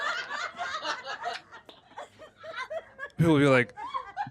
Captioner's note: laughter